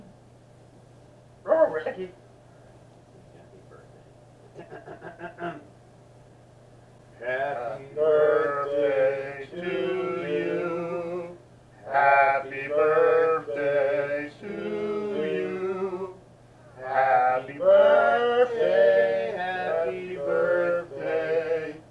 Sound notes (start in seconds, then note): 4.6 clears his throat; 7.1 singing